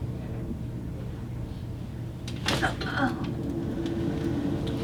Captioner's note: pained grunt